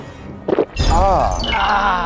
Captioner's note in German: Schlucken, Stöhnen